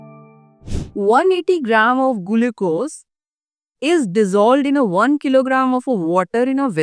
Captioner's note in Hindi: नाक से की जाने वाली आवाज़